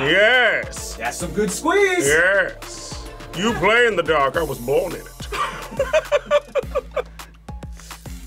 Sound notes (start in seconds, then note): 5.3 laughs